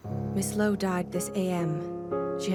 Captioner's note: voiceover